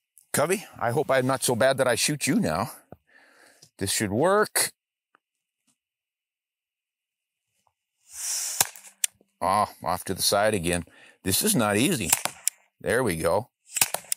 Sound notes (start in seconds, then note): 8.1 hisses; 8.6 shot fires; 12.0 shot fires; 13.7 shot fires